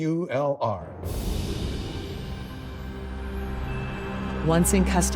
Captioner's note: soft music; wind whooshing